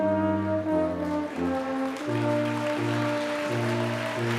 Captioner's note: applause